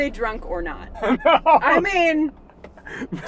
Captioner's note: laughs